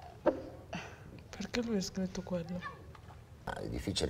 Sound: in faltering Italian

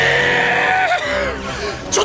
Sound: out of breath

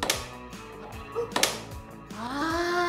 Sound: snap

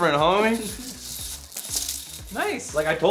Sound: hula hoop rattles

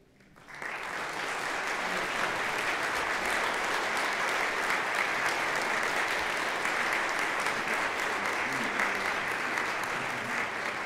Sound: applause

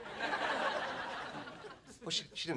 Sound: audience laughing

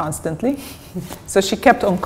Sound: chuckle

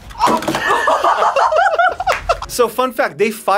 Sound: both laugh

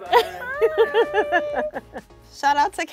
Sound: designers laugh

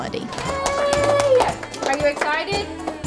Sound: clapping

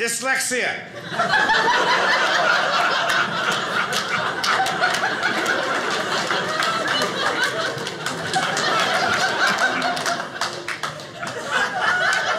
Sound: audience laughing

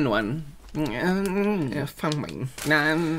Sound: mouth Noises

